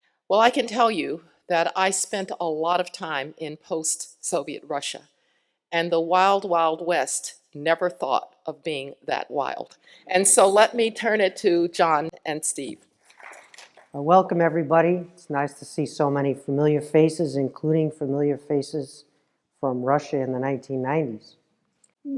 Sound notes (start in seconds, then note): 13.3 applause